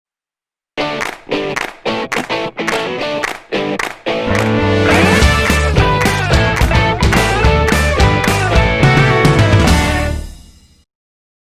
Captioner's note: claps